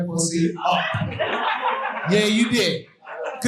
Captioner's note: audience laughing